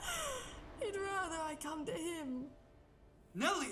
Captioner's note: laughs